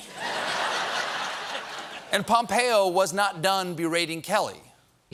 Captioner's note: laughter